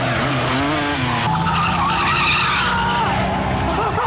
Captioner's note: motorcycle engine revs; overlapping chattering; Jeremy cries out